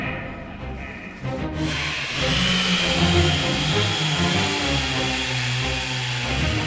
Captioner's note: suspenseful music; chainsaw whirring